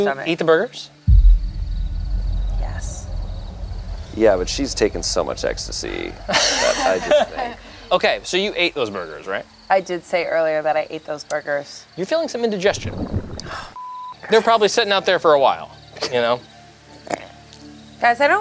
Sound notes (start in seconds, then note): 12.7 stomach gurgling; 14.4 beeps